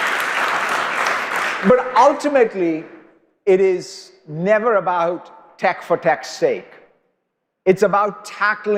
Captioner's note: applause